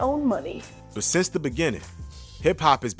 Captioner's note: voiceover